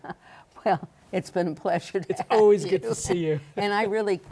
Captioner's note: laughs